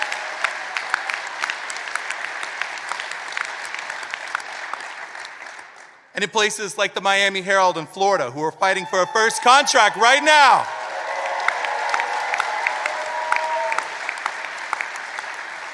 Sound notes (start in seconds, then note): 6.7 applause